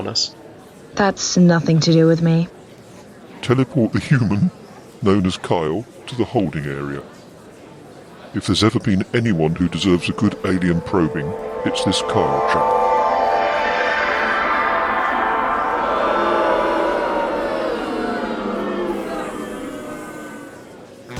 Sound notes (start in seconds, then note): 11.6 teleportation sound; 17.2 booing